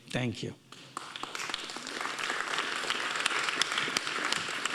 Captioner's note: audience applauding